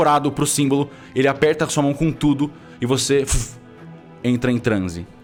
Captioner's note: whoosh